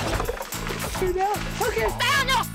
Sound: water splashes

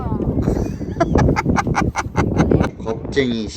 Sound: laughing

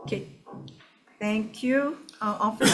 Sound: member coughs

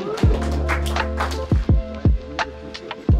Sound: cheering and applause; midtempo electronic music

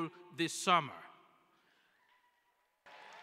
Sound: cheering

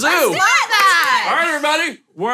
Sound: clapping

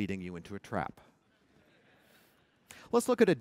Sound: laughter

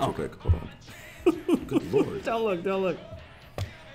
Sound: laugh

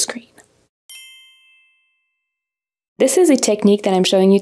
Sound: chiming

